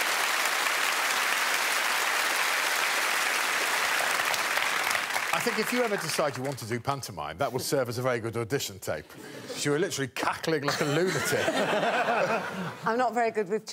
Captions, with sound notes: [audience clapping and cheering] I think if you ever decide you want to do pantomime that would serve as a very good audition tape Because you were literally cackling like a lunatic.